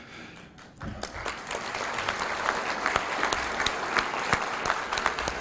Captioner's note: applause